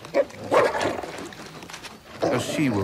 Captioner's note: wolves growling